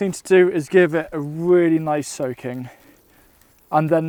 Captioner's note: water swishing